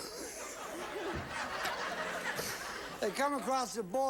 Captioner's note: audience laughing